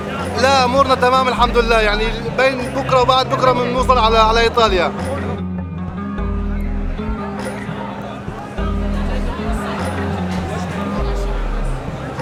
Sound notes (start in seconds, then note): 8.5 indistinct chattering